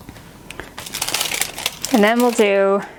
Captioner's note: paper rustling